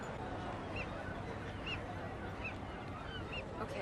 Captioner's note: seagull noise